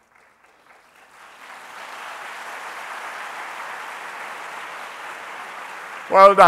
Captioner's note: applause